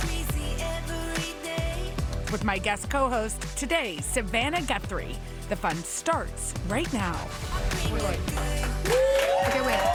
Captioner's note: applause